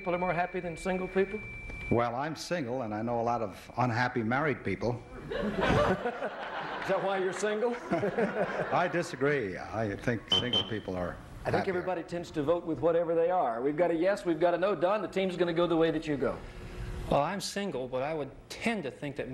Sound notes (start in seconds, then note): 5.2 laughter